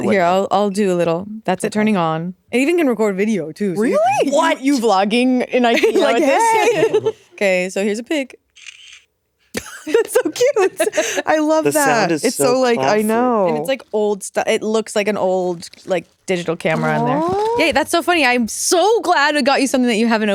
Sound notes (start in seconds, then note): 8.5 shutter clicking